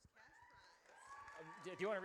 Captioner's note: audience cheers